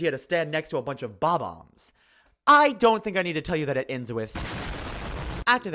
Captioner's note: explosion